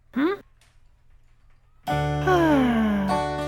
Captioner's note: sighs